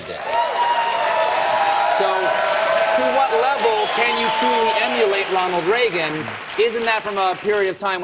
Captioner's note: cheers and applause